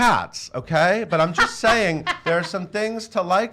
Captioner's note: laughs